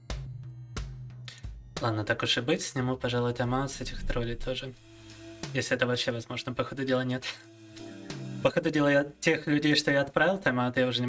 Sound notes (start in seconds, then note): 1.5 speaking in foreign language